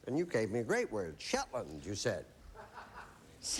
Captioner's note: audience member laughs